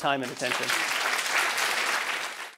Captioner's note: applause